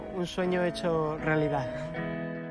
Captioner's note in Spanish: voz en off; Música electrónica suave